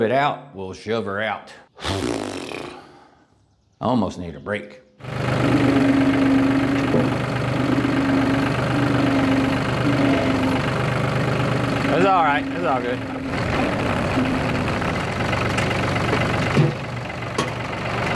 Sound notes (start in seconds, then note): 1.7 blows Raspberry; 4.7 engine Revs; 14.2 engine Revs